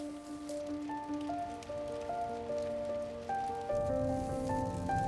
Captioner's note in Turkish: Yağmur sesi